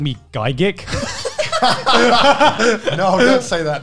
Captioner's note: laughing